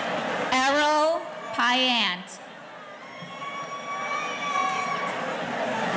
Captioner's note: audience cheering